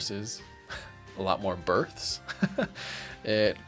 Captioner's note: laughs